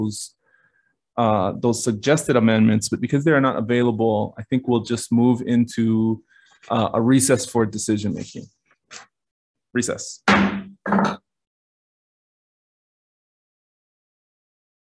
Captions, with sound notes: those suggested amendments, but because there are not available, I think we'll just move into a recess for decision making. Recess. (gavel slams)